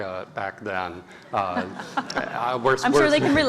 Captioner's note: laugh